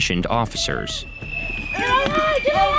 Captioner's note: missile whistles